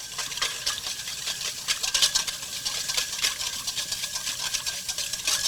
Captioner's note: whisking in metal bowl